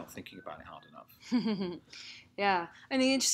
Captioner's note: laughter